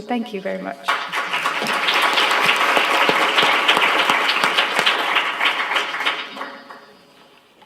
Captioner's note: applause